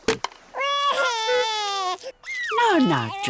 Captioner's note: wailing